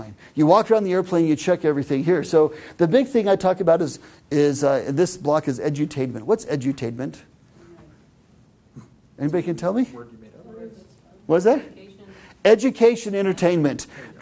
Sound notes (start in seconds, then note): 9.9 mumbling